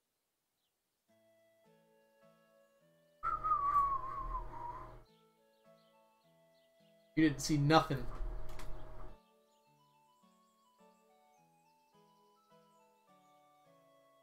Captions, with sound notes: (whistles casually) You didn't see nothin'!